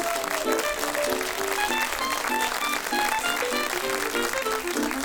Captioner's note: audience applauds and cheers